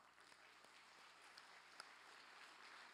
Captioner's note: applause